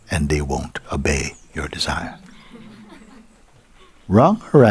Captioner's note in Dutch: gelach